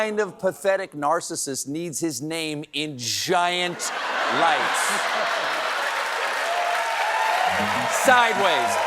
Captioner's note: applause